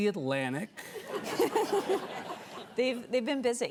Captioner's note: Ashley and audience chuckling